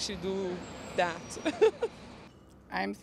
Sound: giggles

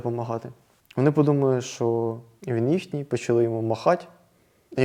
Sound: Russian

